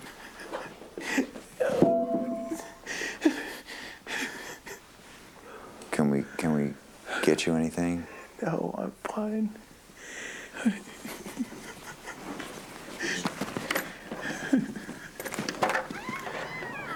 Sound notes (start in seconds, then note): 4.0 sobbing; 10.5 sobbing